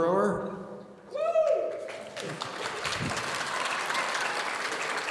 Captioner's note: audience cheering